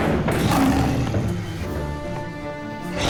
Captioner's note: growls